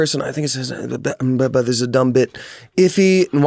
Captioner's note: stutters